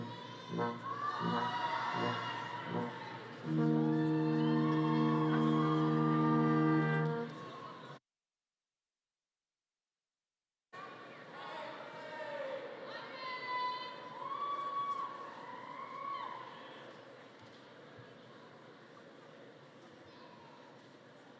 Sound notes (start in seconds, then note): 0.1 attendees cheering and applauding; 10.8 attendees speaking faintly and cheering